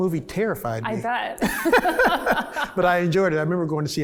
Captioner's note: both laugh